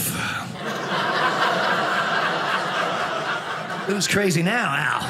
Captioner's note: audience laughing